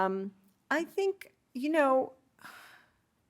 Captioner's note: sighs